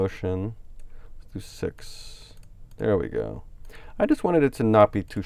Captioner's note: clicks on mouse